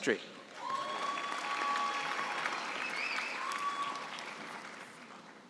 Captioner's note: cheering and applause